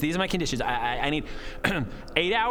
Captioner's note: dying moans